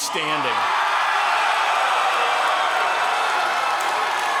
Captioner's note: applause